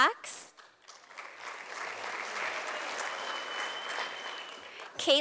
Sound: sound of applause from audience

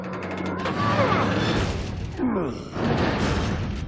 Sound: grunting

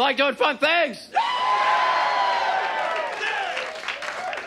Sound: audience cheers

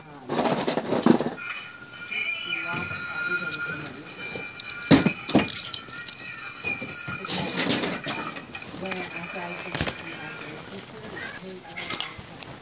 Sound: banging contiues

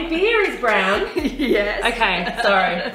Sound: laughs

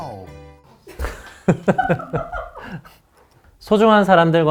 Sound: cracking up

